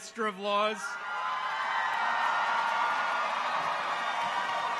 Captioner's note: people cheer